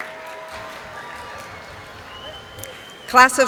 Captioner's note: cheering